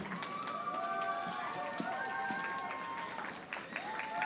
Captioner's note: audience applauding